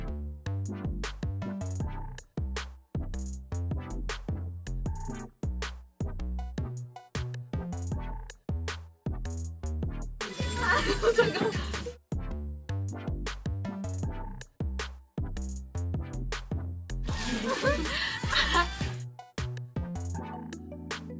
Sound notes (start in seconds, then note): 17.1 bursts out laughing at how many pulls out